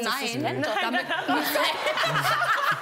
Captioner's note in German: Gelächter